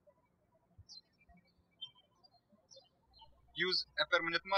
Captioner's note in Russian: птички щебечут